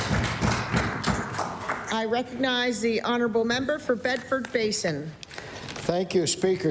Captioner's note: applause